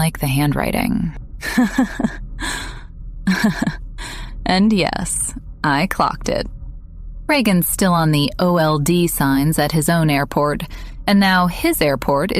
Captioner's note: laughs